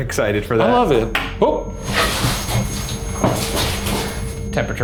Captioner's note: REM-pod beeping